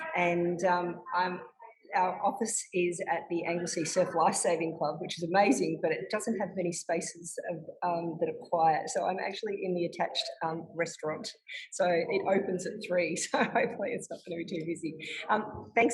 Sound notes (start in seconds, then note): 12.0 chuckles